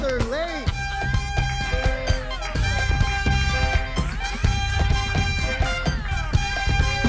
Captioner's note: upbeat music; audience applauding